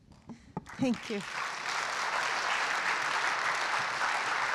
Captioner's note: applause